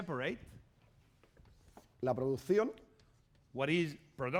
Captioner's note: speaking spanish